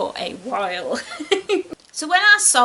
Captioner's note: giggles nervously